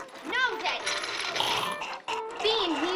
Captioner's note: zombie walter gagging